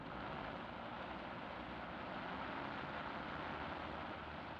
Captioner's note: plane engine revving